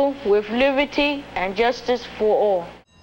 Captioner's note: bell ringing